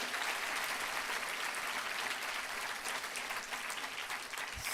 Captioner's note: applause